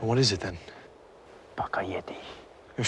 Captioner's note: non-english speech